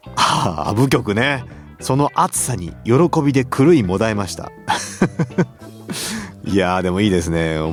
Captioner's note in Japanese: 笑い